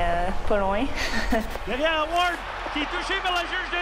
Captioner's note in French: petit rire